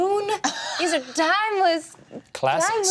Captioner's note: laughs